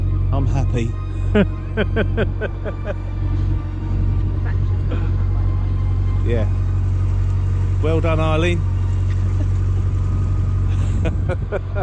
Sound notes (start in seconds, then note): 1.3 laughing; 10.7 laughing